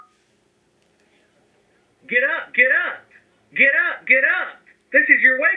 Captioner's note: beeps